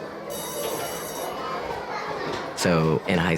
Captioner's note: school bell rings